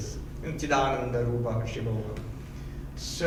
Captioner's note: speaking in foreign language